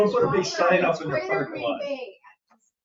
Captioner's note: chuckles